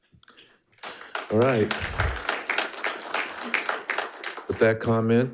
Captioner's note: audience applauding